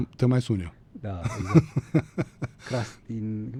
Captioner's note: laughter